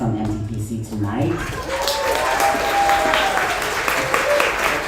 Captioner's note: audience applauds